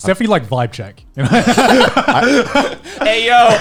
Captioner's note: laughing